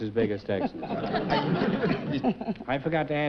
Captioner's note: chuckling